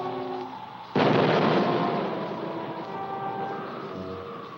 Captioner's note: dynamite booms